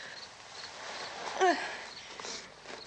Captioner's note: barbra groans